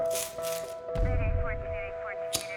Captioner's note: hand knocking on a door; sounds of police radio chatter; lighter being lit